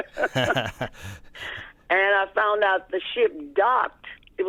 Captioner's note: laughter